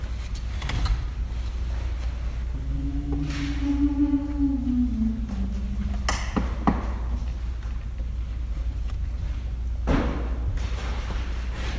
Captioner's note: humming